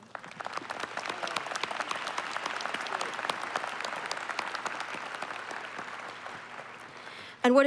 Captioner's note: applause